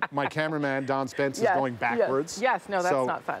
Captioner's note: laughter